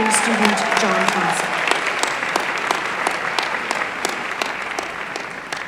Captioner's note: applause